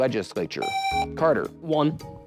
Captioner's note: buzzer